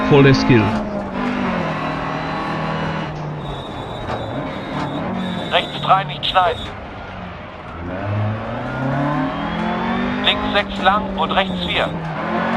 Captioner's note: engine sounds and co-pilot's instructions